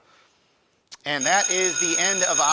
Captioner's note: alarm rings